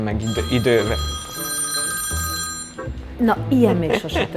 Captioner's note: phone ringing